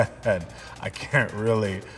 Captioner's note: laughs